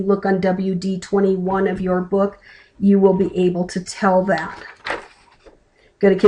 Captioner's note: flipping a page